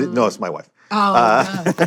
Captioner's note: laughs